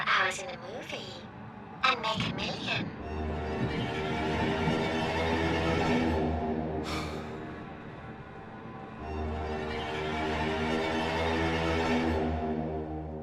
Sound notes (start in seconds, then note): 3.7 light dramatic music; 6.8 Danny sighs